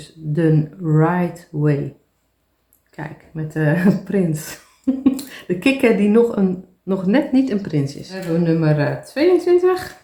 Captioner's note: laughs